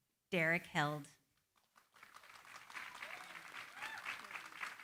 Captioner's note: applause